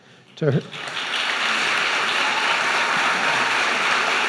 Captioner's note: applauding